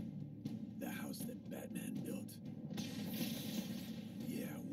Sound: lightning sounds

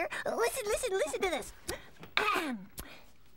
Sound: clears throat

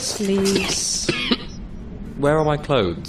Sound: coughs

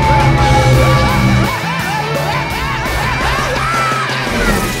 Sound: Crusher screaming

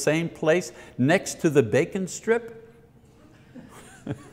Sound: audience laughs softly

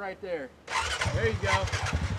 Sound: engines turn over

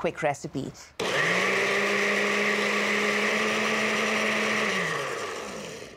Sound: blender whirring; blender stops

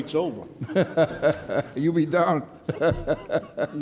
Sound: laughs

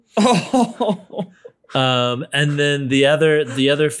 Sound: laughs

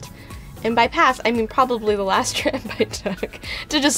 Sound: laughs

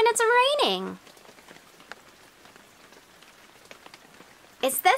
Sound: rain sounds

